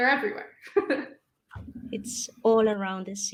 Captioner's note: laughs